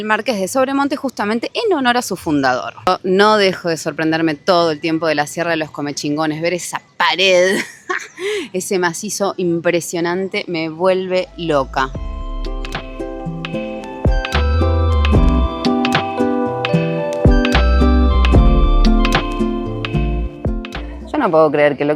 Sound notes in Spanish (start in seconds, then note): 10.1 risas